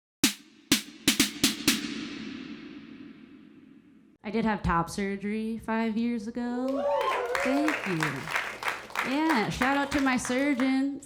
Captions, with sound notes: - I did have top surgery five years ago. Thank you. (audience clapping) Yeah, shout out to my surgeon.